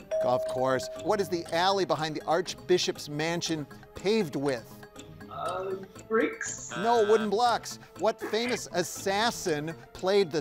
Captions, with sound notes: What is the alley behind the Archbishop's mansion paved with? - Bricks? (buzzer buzzing) - No wooden blocks. What famous assassin played the sinister role